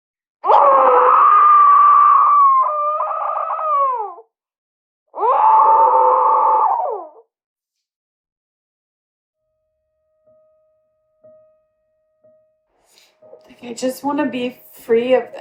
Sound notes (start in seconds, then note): 5.1 screaming sound; 5.1 on Zoom call